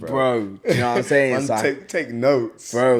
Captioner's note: laughs